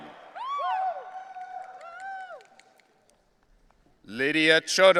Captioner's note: audience cheering